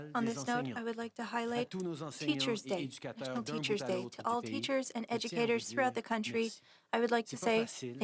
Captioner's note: speaking French